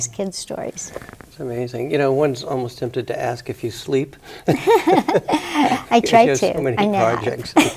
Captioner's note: both laugh